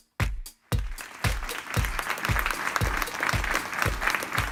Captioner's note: upbeat music; applause